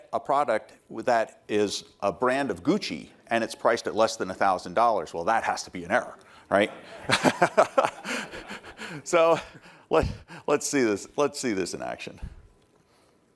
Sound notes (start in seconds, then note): 6.6 laughter